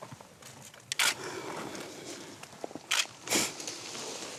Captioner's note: camera clicking